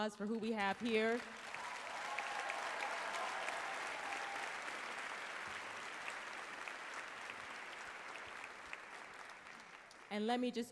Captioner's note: applause, some cheeers